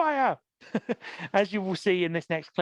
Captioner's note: laughs